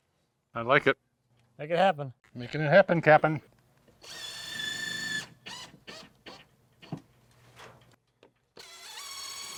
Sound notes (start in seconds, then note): 4.0 drill whirring